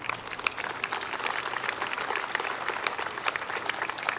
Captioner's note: applause